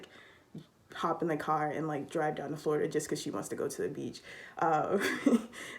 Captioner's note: laughs